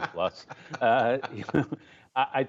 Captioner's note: laughter